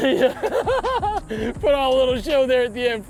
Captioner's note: laughs